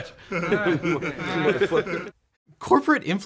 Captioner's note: guys giggling